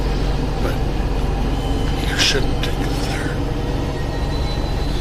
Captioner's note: whispers